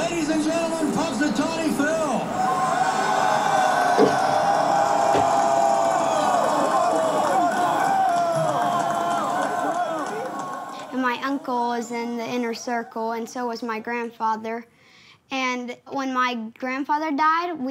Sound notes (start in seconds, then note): 2.8 crowd cheering; 3.8 applauding